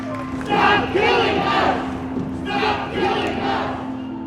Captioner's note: chanting